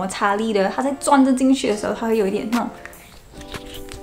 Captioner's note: squeaky